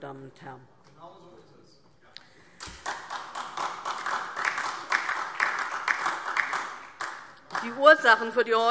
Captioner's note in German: Beifall DIE LINKE und vereinzelt SPD